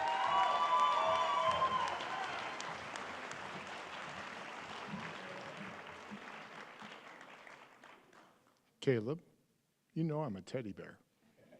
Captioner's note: cheering and applause